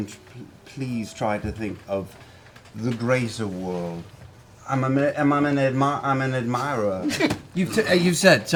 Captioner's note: stuttering